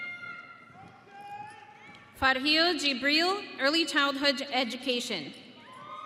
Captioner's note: audience cheering